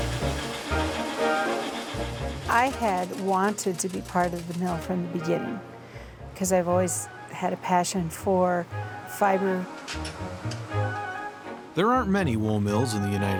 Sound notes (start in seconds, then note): 1.6 machine humming